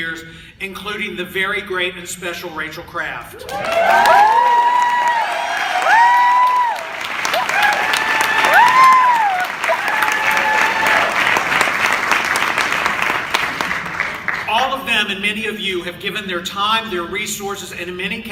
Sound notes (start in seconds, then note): 12.8 applause